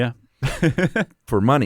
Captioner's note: laughs